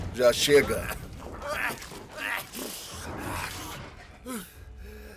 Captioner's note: mathias coughing